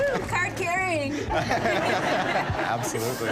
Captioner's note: laughter